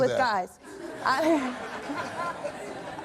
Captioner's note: audience laughs